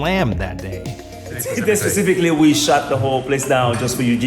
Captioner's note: laughs